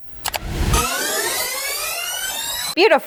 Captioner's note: tape screeches